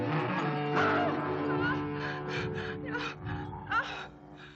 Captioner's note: Leonor moaning